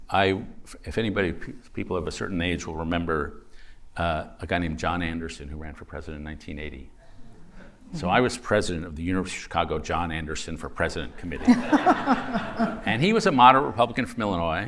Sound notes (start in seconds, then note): 11.3 laughter